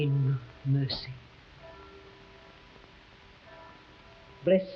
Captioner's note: abbey bell ringing